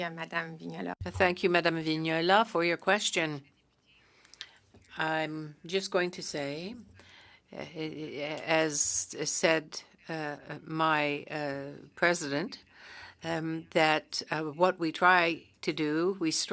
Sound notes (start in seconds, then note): 6.6 speaking French